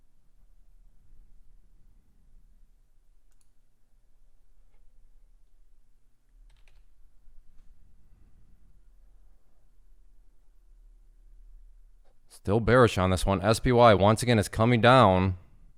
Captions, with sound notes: (typing) Still bearish on this one. SPY once again, it's coming down,